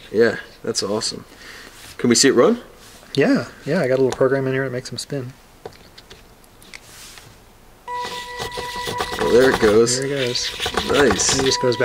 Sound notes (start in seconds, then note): 7.7 robot whirs and hums